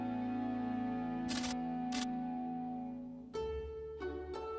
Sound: title statically buzzing; gentle instrumental music

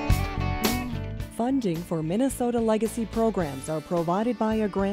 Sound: voiceover

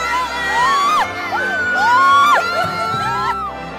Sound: cheers

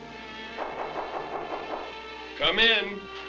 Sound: door knocking

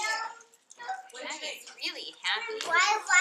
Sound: turning page of book

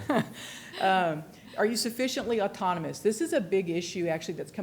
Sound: laughter

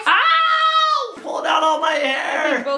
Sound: screams

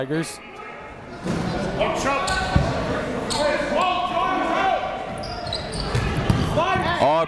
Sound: crowd talking; coaches yelling

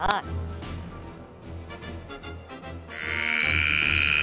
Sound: speaking Frog

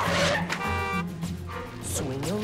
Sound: horn blares; singing

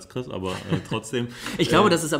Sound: laughs

